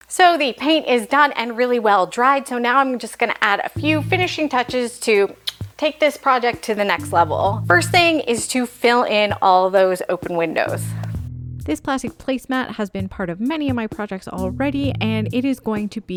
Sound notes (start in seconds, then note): 5.4 kiss